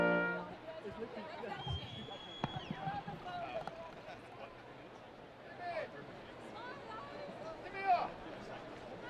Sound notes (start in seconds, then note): 1.7 students cheering and screaming